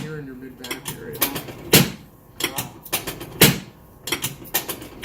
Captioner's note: table adjusting